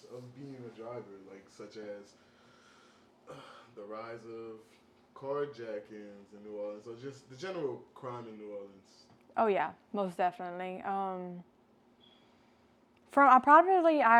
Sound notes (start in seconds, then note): 12.0 sharply inhales